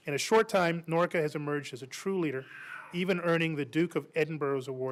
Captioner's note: crying baby in background